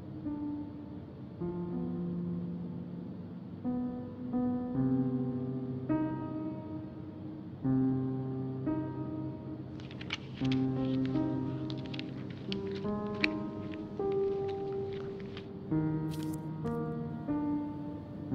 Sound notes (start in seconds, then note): 9.7 paper being folded; 16.1 paper put down